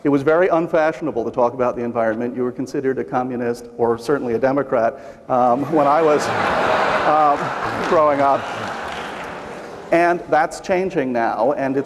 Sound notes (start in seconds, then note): 5.5 laughter